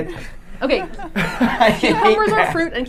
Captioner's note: laughing